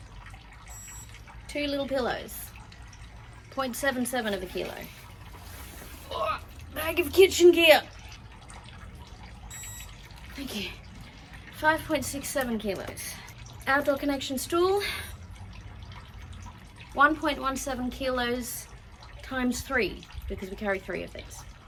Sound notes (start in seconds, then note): 6.4 strained